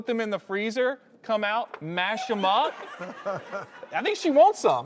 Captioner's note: laughing